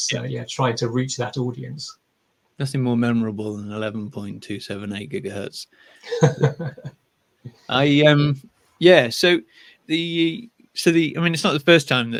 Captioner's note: laughing